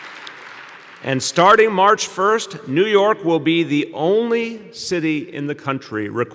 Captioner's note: applause